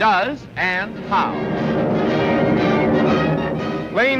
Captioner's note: aircraft whirring